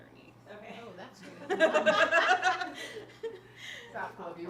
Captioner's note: laughter